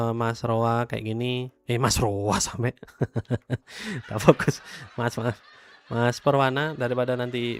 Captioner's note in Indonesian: tertawa